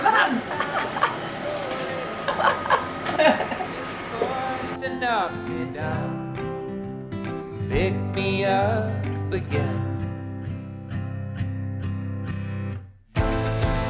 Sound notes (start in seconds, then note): 0.0 laughs; 7.3 chill acoustic music